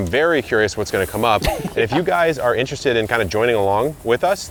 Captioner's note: laughing